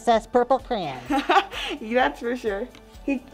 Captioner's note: laughs